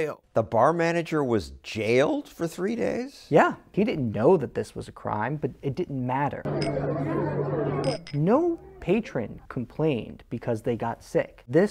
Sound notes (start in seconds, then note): 6.4 bar noises